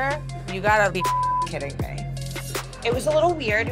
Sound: beep

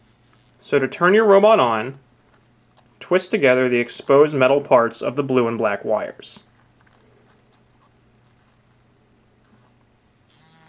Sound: buzzing noise

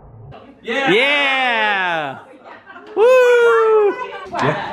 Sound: cheering

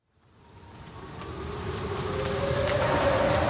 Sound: sounds of a distant siren can be heard over rain and wind

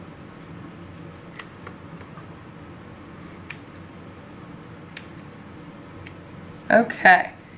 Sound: clipping sounds

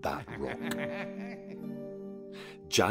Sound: evil laugh

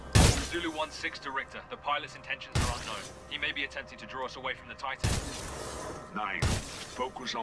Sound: radio

